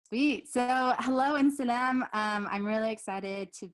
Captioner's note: speaks in foreign language